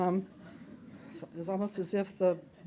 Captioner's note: audience chuckling